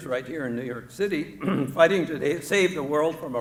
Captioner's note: clears throat